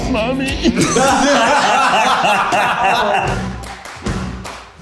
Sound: all laughing; upbeat music

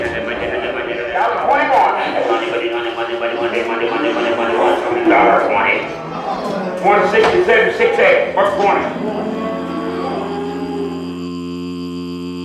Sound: sound of auction

